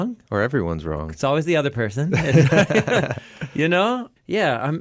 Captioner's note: laughs